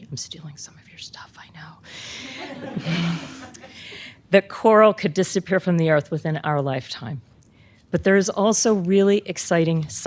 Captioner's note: laughter